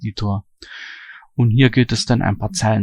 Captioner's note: strong breathing